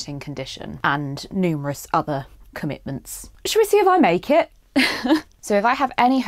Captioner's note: laughs